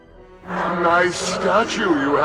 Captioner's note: evil laughter